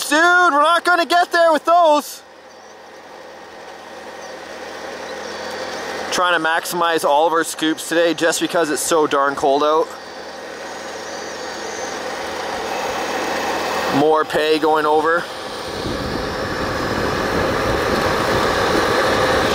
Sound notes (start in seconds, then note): 11.5 machine engine roaring; 15.9 machine engine roaring